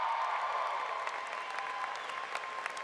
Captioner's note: applause